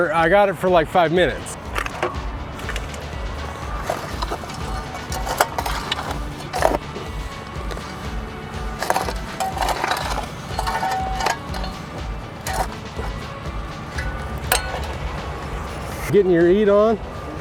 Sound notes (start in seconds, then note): 2.0 shovel scraping